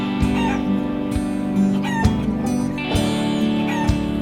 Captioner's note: hens clucking